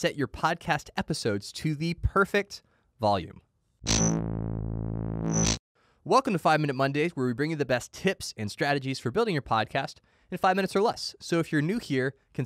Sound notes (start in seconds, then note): 3.8 electricity buzzing